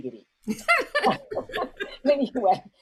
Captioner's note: chuckles happily